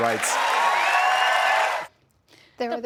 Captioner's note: cheering